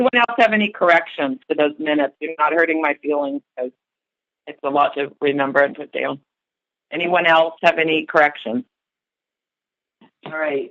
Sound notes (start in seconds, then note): 8.5 silence